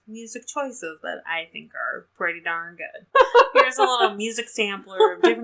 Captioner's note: laughs